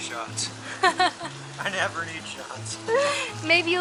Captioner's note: laughter